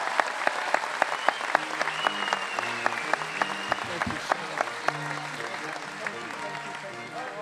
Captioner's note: cheers and applause